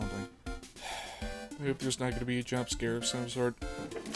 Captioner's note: sigh